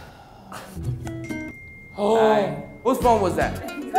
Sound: phone beeps

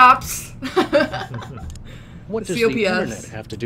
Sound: laughs

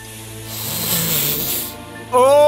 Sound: sniff; pleasurable sigh

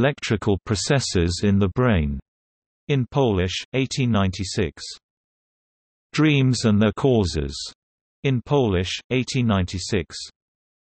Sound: in Polish; in Polish

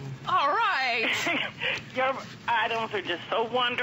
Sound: laughter

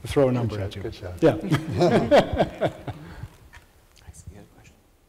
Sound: laughs

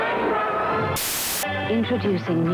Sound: static hisses

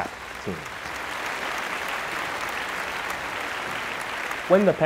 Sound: applause

